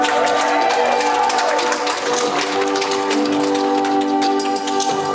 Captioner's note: audience applauding